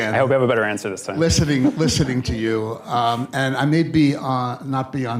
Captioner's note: laughs